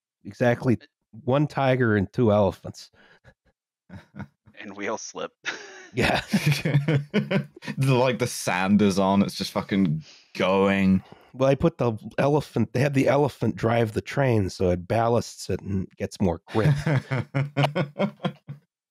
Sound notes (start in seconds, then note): 5.4 laughter; 16.4 chuckles